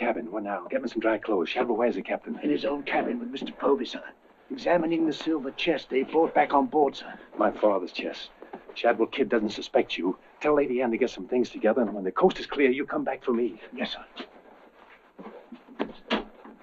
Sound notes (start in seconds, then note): none